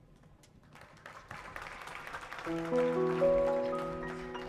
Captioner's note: audience clapping; gentle jazz